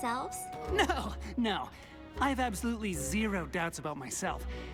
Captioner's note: chuckling